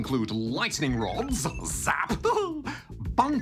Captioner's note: laughs